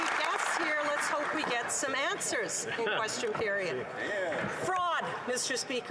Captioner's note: applause